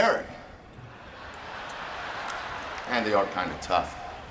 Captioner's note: audience laughing